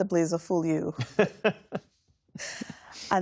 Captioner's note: laughter